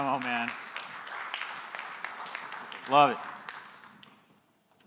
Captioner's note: applause